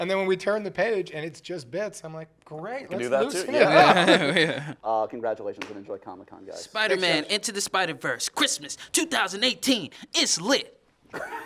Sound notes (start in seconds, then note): 3.6 chuckles